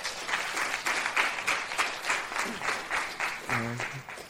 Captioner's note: applause